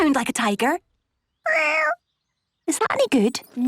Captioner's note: small meow